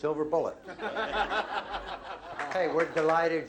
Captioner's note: laughter